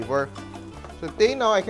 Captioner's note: sizzle